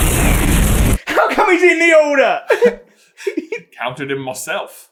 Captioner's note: aggressive; giggles